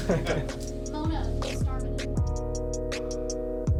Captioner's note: laughter; indistinct chatter